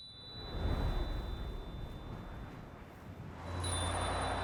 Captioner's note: wind whooshing; bell chimes again